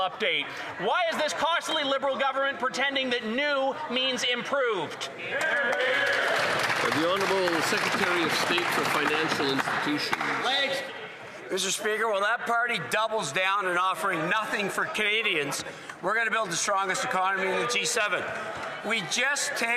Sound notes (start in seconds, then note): 10.4 some Applause